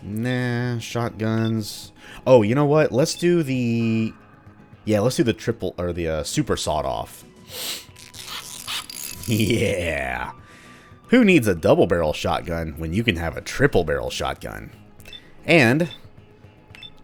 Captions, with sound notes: nah, shotguns... oh, you know what? Let's do the... yeah, let's do the triple- or the uh, Super Sawed-Off. *tinkering sounds again* *chuckling* Yeah! Who needs a double-barrel Shotgun when you can have a triple-barrel Shotgun? And...